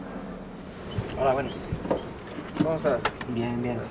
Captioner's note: in Spanish